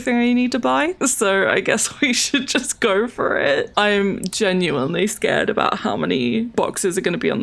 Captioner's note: laughs